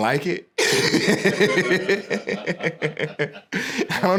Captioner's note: laughing